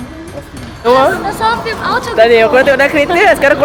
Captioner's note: speaking German